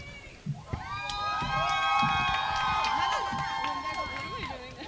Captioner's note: crowd cheering